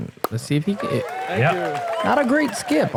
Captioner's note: applause